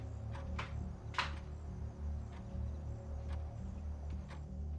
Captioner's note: object clicks